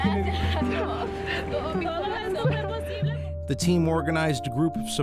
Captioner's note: crying